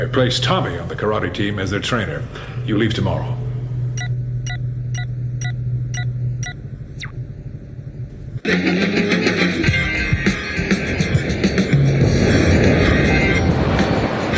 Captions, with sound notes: I placed Tommy on the karate team, as their trainer. You leave tomorrow. (computer beeps) (upbeat hip-hop music)